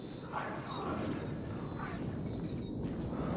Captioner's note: distant sirens